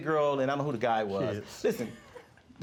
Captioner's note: laughing